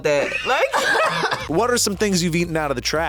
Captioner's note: group laughs